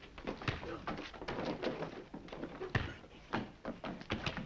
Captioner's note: punches striking